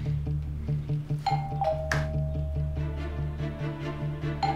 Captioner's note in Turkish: Kapı zili çalıyor